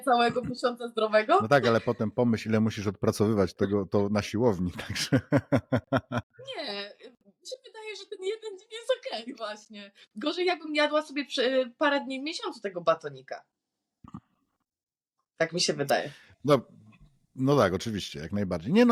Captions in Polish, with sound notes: tak ale potem pomyśl ile musisz odpracowywać tego to na [śmiech] siłowni właśnie gorzej jakm jadła sobie parę dni w miesiącu tego batonika tak mi się